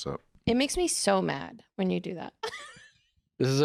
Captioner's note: laughs